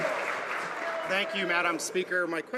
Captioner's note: cheering and Applause